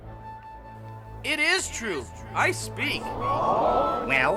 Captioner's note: multitud jadeando